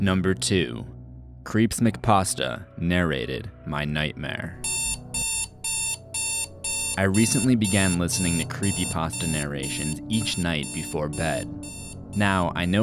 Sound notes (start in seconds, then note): 4.6 alarm sound effect